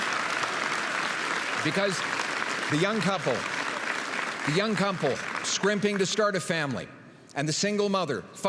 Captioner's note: applause